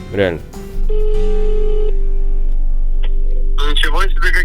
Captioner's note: ringing